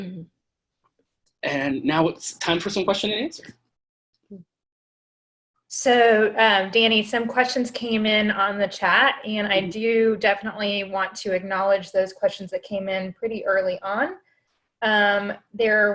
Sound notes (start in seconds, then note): 1.5 laughs